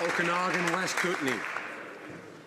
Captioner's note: applause